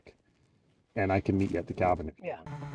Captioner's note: snowmobile humming; snowmobiles hum